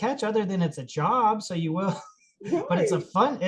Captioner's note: laughs